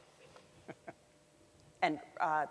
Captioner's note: laughs